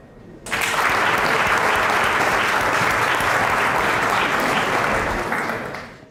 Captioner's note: applause